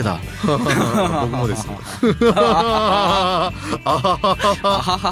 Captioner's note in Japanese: 笑い